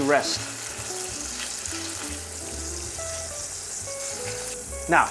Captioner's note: sizzling sound